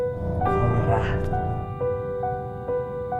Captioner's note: female voice